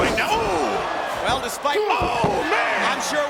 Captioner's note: Shane exclaims